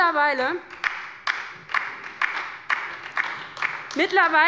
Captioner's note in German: Beifall bei der LINKEN und der SPD